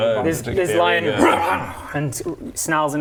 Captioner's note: grrr